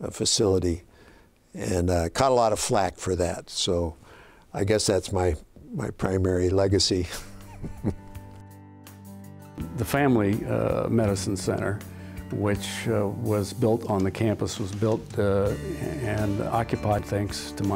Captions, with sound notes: BUILDING NO SMOKING FACILITY I CAUGHT A LOT OF FLACK FOR THAT. THAT IS MY PRIMARY LEGACY. (LAUGHING). >>THE FAMILY MEDICINE CENTER WHICH WAS BUILT ON THE CAMPUS WAS BUILT AND OCCUPIED THANKS TO